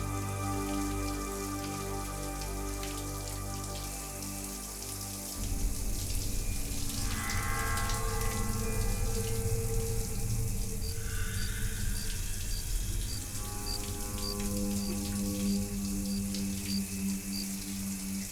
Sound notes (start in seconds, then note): 7.4 ominous music; 12.1 cricket chirping